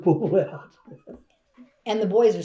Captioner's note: laughs